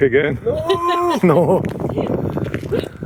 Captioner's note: laughter